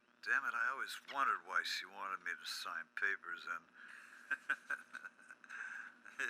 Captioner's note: laughs